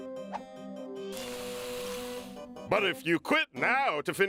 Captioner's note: fizzing